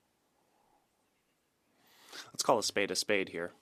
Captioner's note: speaking French